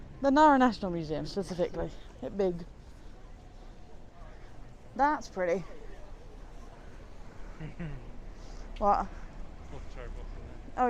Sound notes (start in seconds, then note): 7.5 chuckles